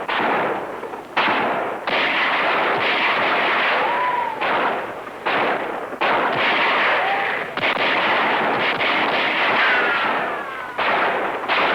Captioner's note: gunfire